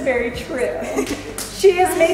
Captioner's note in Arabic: تضحك